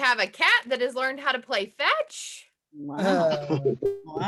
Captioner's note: laugh